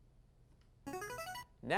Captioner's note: device sound